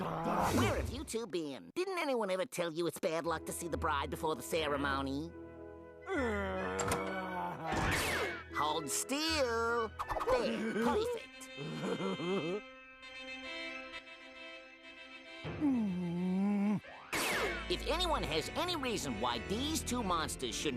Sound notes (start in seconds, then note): 11.5 laughing; 15.6 grunting